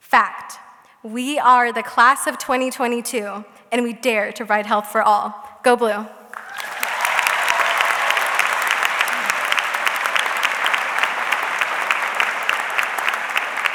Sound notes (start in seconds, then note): 6.3 audience clapping